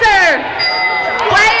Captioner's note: dinging